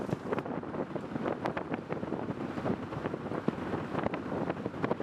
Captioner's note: wind